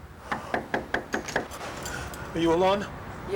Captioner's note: rapid knocking